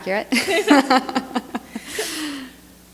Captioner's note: laughter